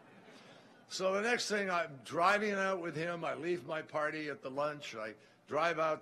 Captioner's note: laughter